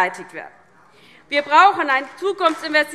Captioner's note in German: Beifall DIE LINKE